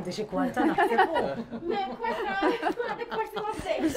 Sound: laughs

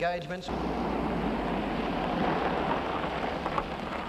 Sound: car rumbling

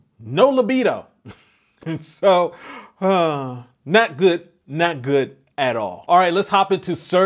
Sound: giggles

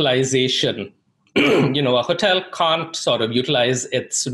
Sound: clears throat

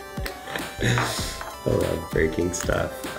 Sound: chuckles

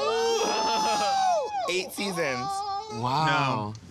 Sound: laughter

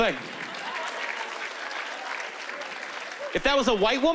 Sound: applause

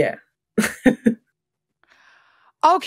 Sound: laughs

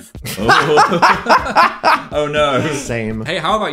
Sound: laughing

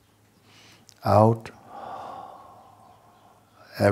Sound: long exhale

